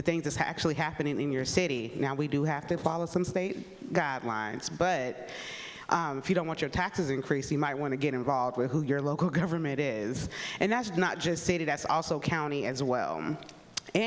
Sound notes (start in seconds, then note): none